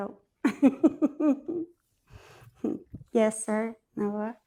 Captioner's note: laughs